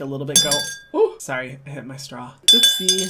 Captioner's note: glass clinks; glass clinks